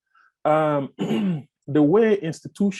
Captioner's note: clears throat